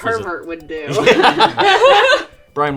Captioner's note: laughing